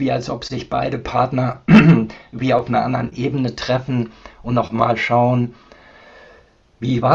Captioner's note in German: räuspern